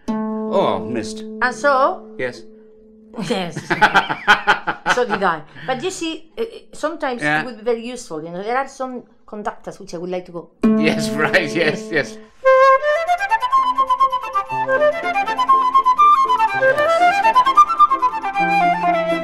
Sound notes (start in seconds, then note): 3.2 laughs; 10.7 plays note